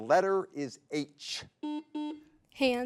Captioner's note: button blips